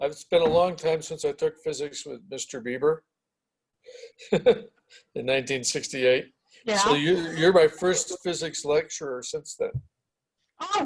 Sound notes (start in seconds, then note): 4.0 laughs